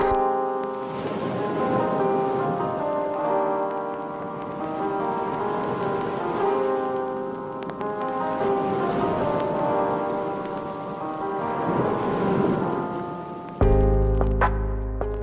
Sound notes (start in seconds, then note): 0.1 gentle soothing music; 0.1 waves splashing